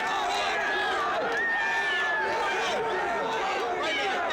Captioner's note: crowd cheering